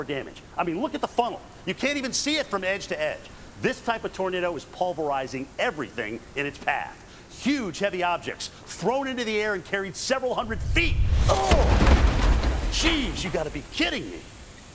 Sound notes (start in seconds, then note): 10.8 car falls to ground